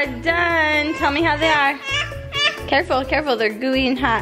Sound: whines

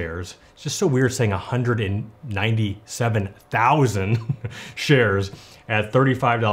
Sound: laughs

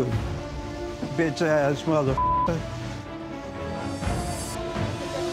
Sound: beep; beeper

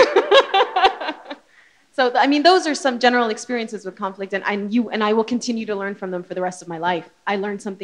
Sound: laughter

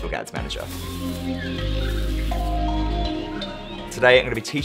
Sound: whooshing

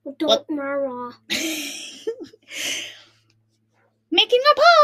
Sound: laughs and giggles

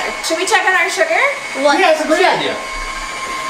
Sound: people talking

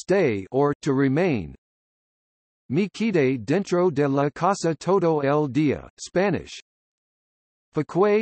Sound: Spanish

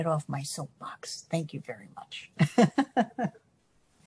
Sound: laughs

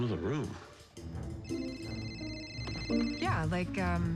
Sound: cell phone rings

